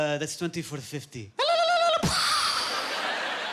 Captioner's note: ululating and imitating bomb exploding